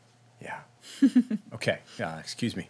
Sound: giggling

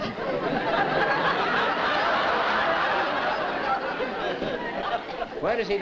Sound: laughter

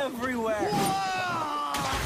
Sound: screams; splash

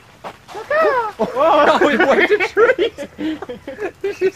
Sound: bird noise

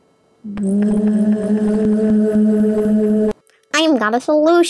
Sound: vibration and glowing ensues

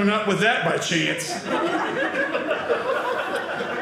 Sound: audience laughing

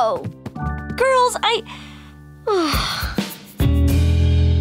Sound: sighing

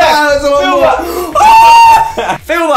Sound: screams

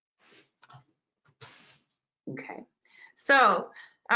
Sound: rustling

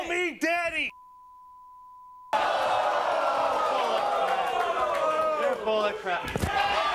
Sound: beep; audience cheering

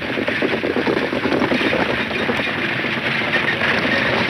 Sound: horses galloping

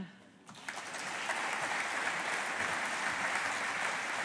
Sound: audience applauding

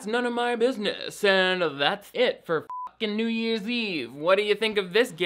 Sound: beep

